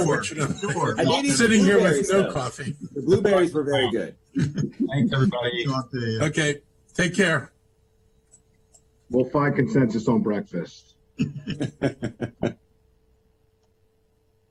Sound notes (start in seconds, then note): 0.0 laughter; 11.2 laughter